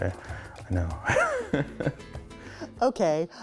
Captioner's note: laughs